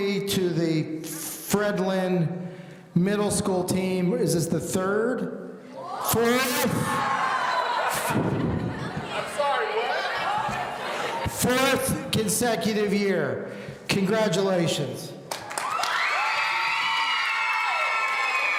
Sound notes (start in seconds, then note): 5.7 students shouting; 15.5 audience cheering